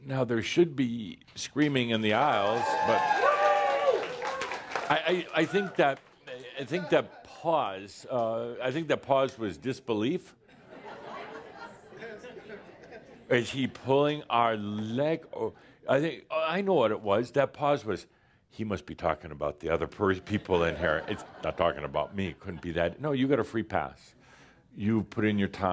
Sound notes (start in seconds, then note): 2.2 now some screaming and applause; 9.8 some chuckles